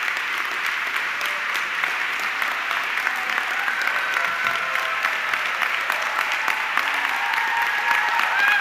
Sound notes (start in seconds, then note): 3.0 audience clapping and cheering